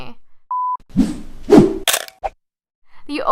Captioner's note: beep swoosh swish crunch whip